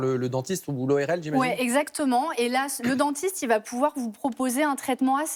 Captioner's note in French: raclement de gorge